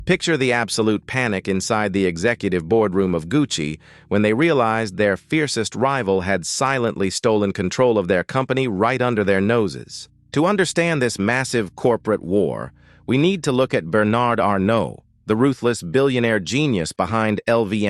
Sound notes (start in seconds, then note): 0.0 SFX: sudden heavy heart beat